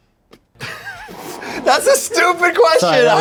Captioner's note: laughs